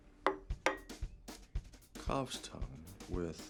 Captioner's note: plate thuds